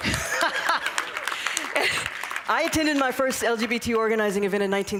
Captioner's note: laughter; applause